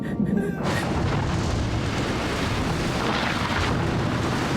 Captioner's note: crying; thunder